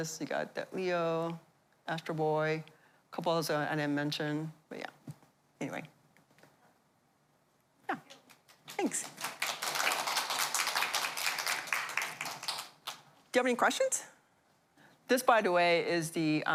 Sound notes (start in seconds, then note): 8.4 applause